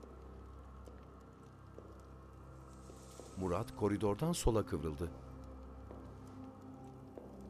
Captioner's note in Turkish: Ayak sesi